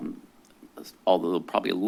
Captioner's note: stuttering